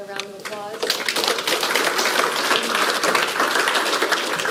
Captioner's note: audience applauds